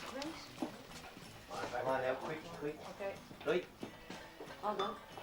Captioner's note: El parloteo continúa